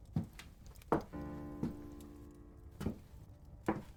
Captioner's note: footsteps on stairs